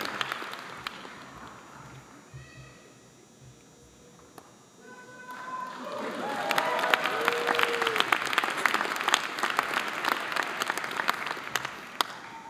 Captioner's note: applause